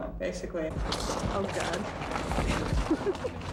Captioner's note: footsteps in snow, giggles